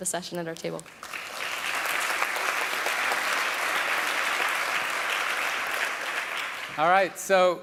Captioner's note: applause